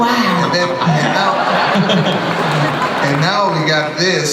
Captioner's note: audience laughs